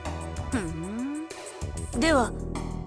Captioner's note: bemused hum